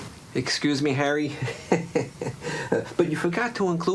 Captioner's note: chuckles